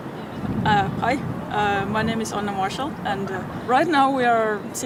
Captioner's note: wind